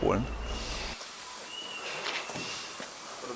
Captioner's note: quiet squeaking